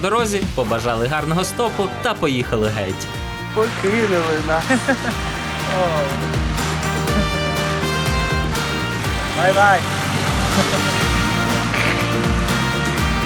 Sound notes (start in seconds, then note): 4.6 laughs; 9.3 in English